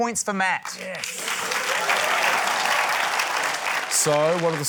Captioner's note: cheering, applause